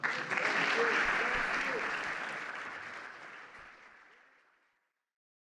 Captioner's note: applause